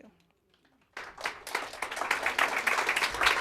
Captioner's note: applause